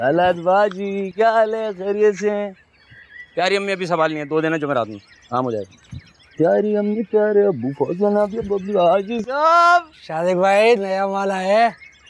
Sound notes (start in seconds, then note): 6.5 humming